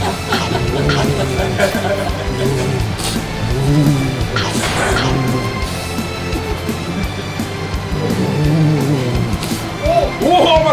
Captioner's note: Egashira is groaning again